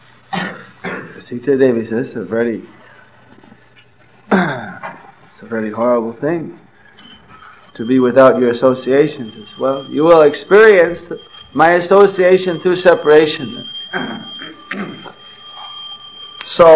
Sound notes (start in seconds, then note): 9.4 bell ringing